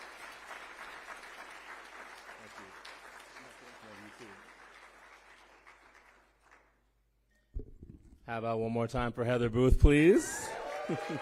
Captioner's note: applause